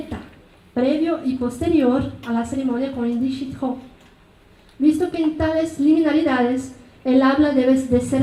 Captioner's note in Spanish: habla en mazateco